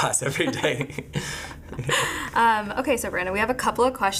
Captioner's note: laughing